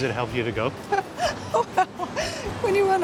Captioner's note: laughs